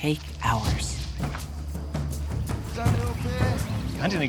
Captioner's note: speaking local language